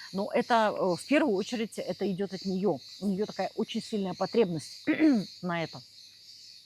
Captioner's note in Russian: откашливается